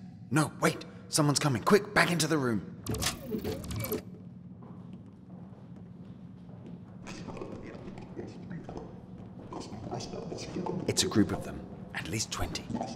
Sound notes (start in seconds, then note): 2.8 door closes; 4.6 many footsteps outside; 9.3 large group passes